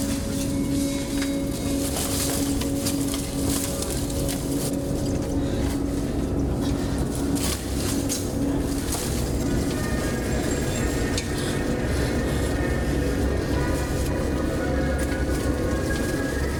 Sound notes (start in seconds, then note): 2.5 leaves rustling; 2.5 ominous music